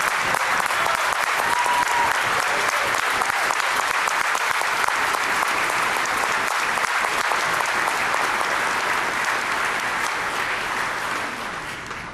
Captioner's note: applause